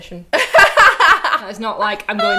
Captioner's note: laughing